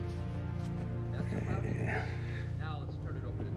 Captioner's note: chuckles